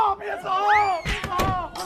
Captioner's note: boom